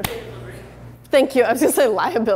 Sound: voiceover

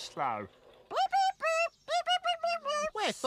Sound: bird noises

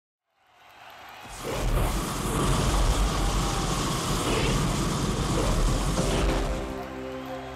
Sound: applause and wind noises

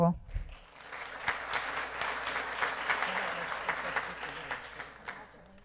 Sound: applause

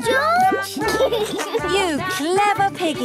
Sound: laughs

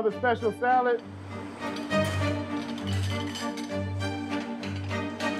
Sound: dishes clanging

